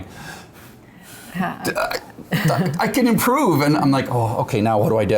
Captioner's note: laughter